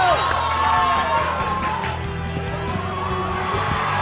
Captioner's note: cheers and applause